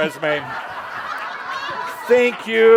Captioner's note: laughter